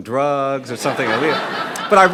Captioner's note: laughing